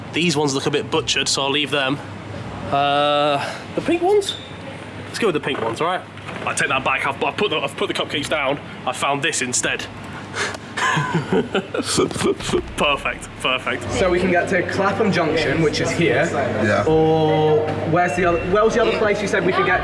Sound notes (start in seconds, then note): 10.7 chuckles